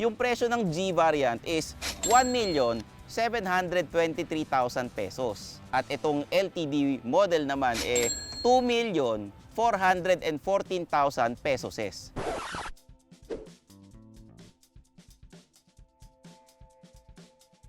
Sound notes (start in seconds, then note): 12.1 reverse record scratch sound